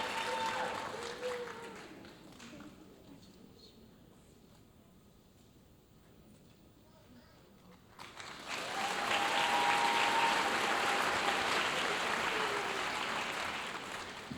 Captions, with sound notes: - Thank you so much. (audience chattering) (audience cheering and applauding)